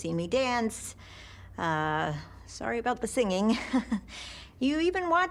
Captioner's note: chuckles nervously